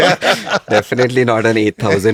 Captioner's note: laughs